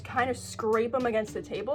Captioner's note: none